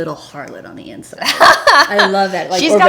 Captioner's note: Kirsten laughs